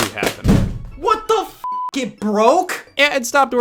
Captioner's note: beep